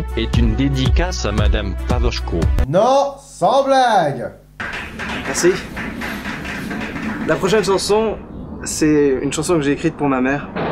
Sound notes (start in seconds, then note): 4.7 applause